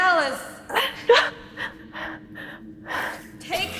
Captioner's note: Keo struggling groans